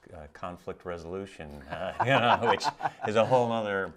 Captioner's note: laughing